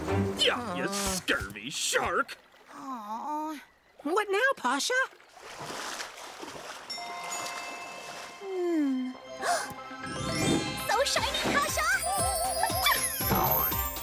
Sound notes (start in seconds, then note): 9.4 gasps; 13.2 sneezing